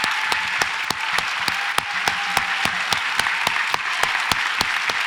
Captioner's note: audience applauds and cheers